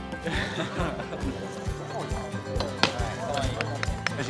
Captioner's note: laughing